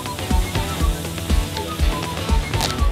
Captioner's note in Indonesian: suara orang